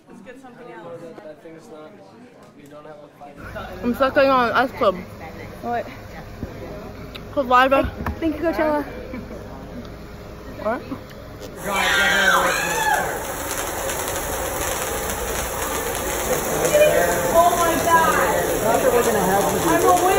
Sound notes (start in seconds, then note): 11.6 screaming